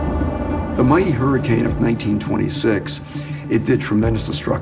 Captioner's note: thunder rumbles